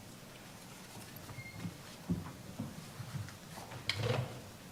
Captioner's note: none